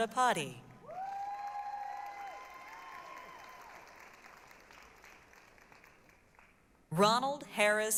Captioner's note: applause, cheering